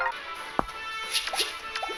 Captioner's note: pop